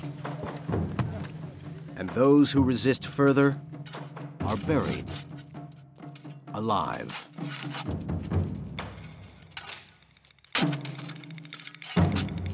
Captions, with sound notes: And those who resist further are buried, alive. (shovels scraping)